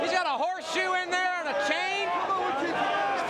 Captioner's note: crowd chatter